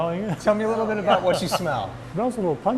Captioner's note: chuckling